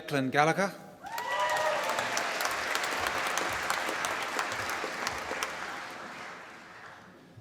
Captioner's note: applause